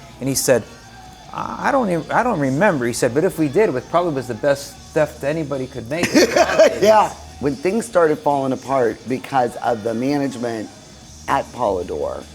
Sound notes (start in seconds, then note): 5.8 laughs